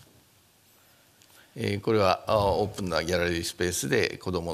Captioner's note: speaking japanese